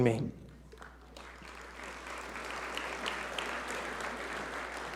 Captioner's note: audience applaud